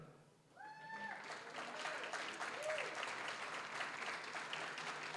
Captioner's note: applause, cheering; applause